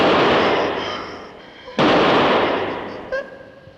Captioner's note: gun shot